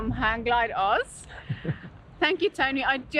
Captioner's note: laughs